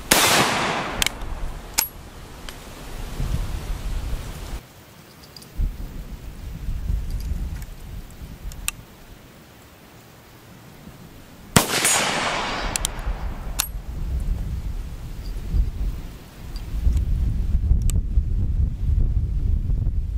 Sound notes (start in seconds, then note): 0.0 gun bangs; 0.1 gun cocking; 11.5 gun bangs; 13.1 gun cocking